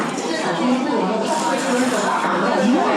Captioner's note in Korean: 후루룩